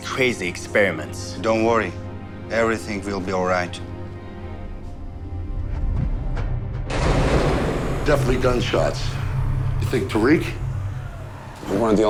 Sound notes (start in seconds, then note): 6.5 suspenseful music; 8.7 gunshots roaring